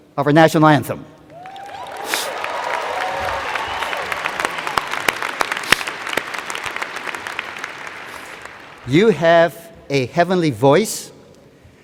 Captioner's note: cheers and Applause